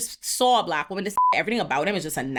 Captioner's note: beep